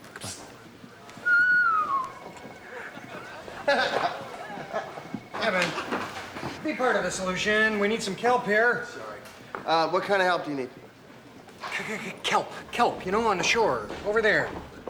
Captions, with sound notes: Stay with him, okay? Come on. Okay. (whistling) (laughs) Evan, be part of the solution. We need some kelp here. Sorry. Uh, what kind of help do you need? K-K-K-Kelp. Kelp. You know, on the shore. Over there.